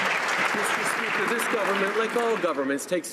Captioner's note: some Applause